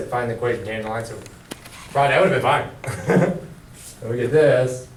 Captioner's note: laughs